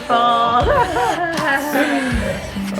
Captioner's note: laughter